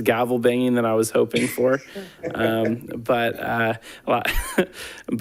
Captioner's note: laughs